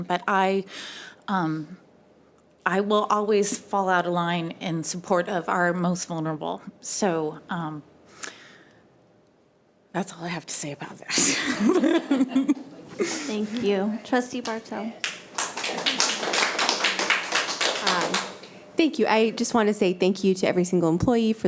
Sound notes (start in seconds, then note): 11.5 chuckling; 15.0 audience members clapping